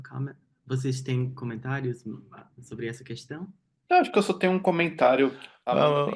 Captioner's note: speaking in Portuguese